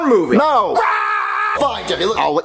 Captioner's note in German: schreit